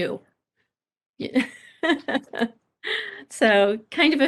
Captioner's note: laughing